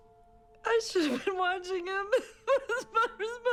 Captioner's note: crying